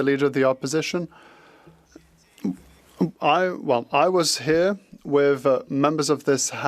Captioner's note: speaking French